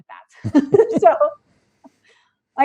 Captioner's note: laughing